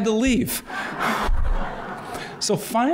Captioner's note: laughter